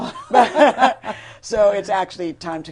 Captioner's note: laughter